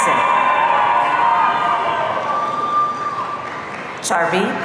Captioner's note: audience cheering